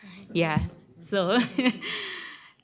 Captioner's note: laughter